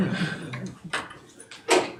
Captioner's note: audience laughing